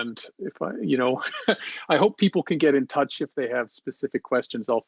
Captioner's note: chuckles